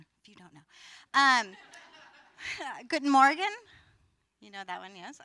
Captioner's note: foreign language